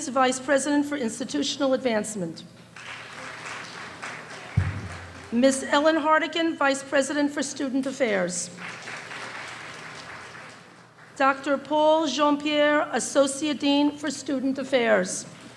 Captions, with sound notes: Vice President for Institutional Advancement. (applause) Miss Ellen Hartigan, Vice President for Student Affairs. (small applause) Dr. Paul Jean-Pierre, associate dean for Student Affairs.